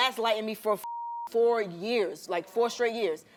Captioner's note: beep